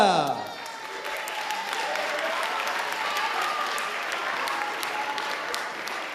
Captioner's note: audience applauding and cheering